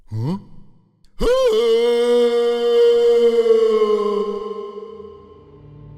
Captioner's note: falling scream